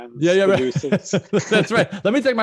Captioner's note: laughter